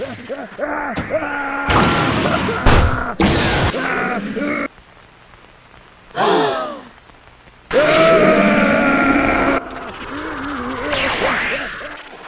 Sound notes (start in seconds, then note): 6.1 CROWD gasps; 7.7 MR. SATAN continues screaming